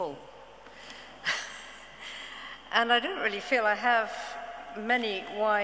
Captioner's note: chuckles